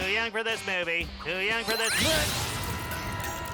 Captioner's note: energy hums